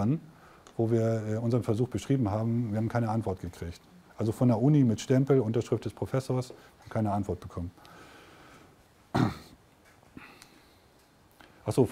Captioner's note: in German